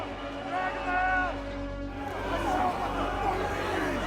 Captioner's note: crowd yelling